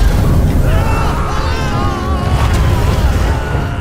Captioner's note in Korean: 비명